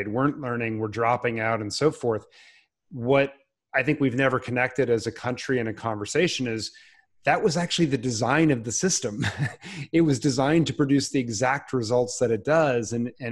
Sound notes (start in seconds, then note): 9.1 chuckles